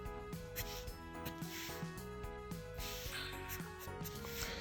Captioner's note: pen scratching